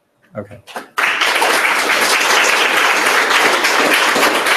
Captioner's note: applause